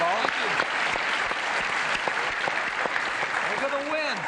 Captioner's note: applause